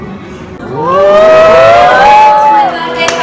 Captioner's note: cheering